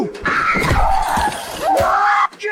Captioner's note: screaming